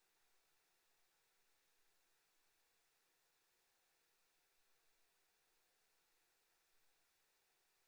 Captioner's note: none